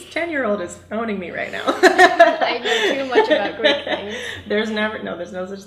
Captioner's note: laughs